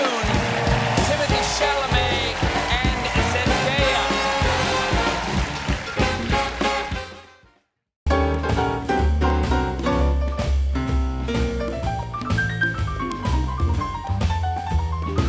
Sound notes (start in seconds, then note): 5.1 cheers and applause